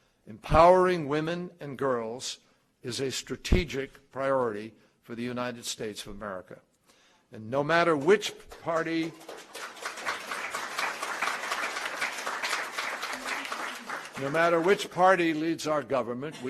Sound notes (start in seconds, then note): 11.2 applause